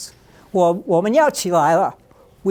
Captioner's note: speaking Chinese